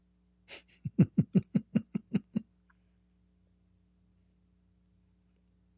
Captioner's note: Ketawa